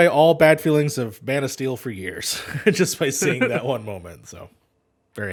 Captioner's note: laughter